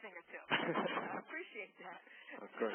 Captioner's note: laughter